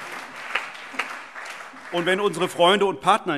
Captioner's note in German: Allgemeiner Beifall